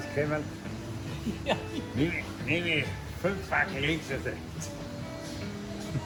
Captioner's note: laughing